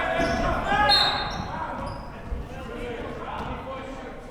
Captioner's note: whistle blows